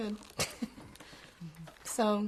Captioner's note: laughs